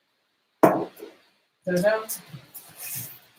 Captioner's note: glass thuds